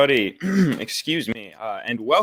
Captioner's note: clears throat